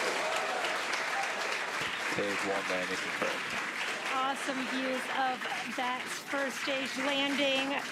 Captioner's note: cheers and applause